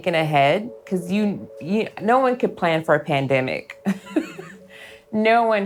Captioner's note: laughs